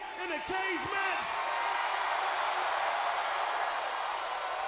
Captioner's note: audience cheering